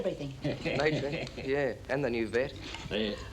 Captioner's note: Bartlett chuckling